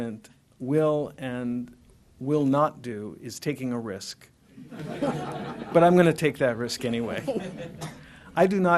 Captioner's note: laughter